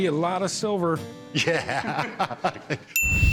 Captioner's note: laughing